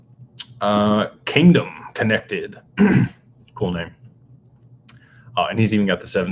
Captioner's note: clears throat